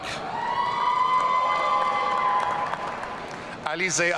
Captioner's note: audience cheering